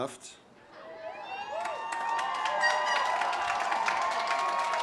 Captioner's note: audience cheers